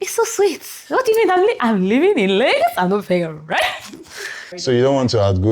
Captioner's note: laughs